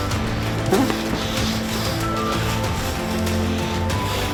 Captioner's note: man grunts